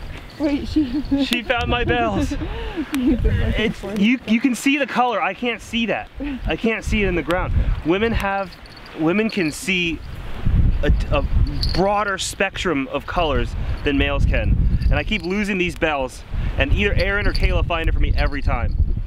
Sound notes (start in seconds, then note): 2.6 laughing